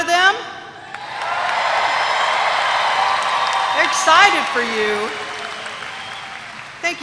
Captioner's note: applause